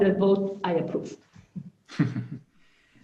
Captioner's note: chuckles